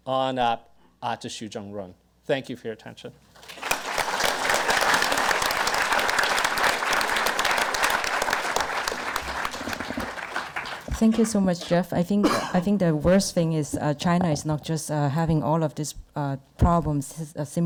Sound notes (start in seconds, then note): 3.4 audience applause